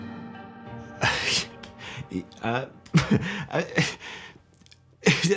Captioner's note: scoffs nervously